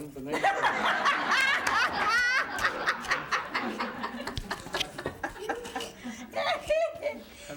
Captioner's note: laughter